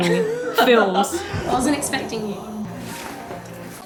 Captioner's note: laughing